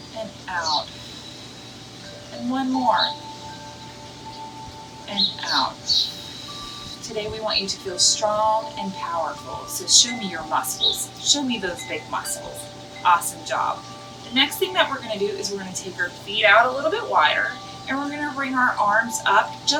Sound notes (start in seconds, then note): 1.0 bird chirps; 3.4 calming ambient music; 5.9 bird chirps; 13.6 calming ambient music